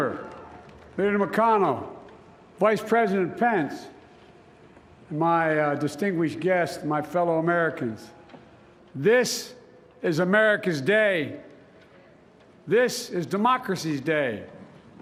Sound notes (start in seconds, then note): 1.0 applause